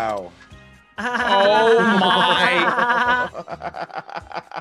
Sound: laugh

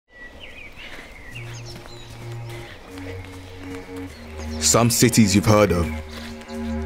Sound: birds tweeting

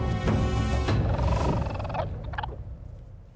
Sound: chittering

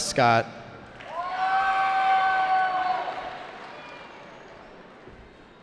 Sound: cheering

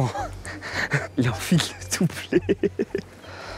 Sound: laugh

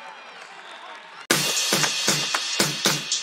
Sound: cheering; upbeat music

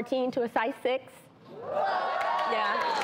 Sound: applause and cheering

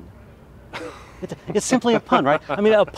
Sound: laughter

